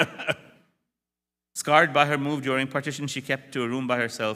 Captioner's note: brief laughter